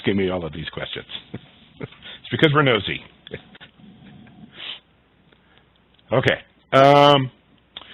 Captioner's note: laugh